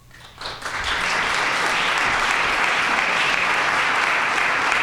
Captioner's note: audience applauding